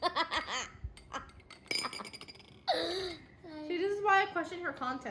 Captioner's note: laughter XD